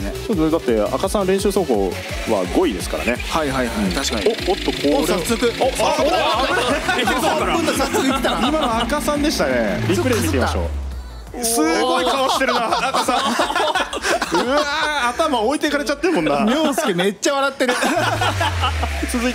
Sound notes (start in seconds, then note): 11.4 laughs; 17.6 laughs